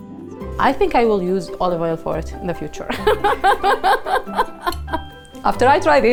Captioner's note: laughs